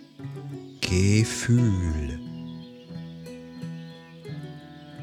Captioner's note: german